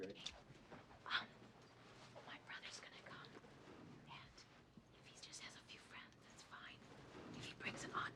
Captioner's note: whispers